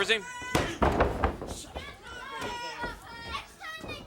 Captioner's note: hand smacking; crowd cheering; fan faintly speaking